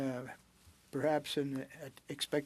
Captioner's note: speaking French